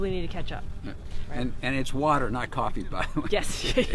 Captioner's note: laughs